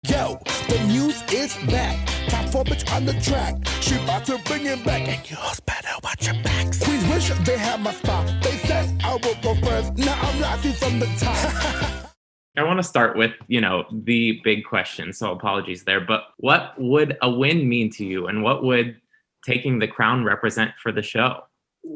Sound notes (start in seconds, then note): 5.5 whispering